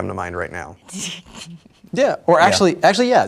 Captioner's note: chuckles